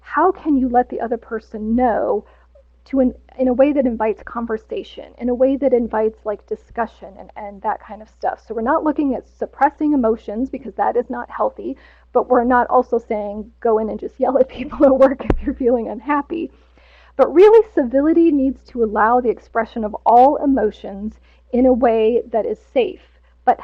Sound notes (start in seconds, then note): 15.1 laughs